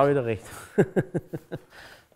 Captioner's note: Lachen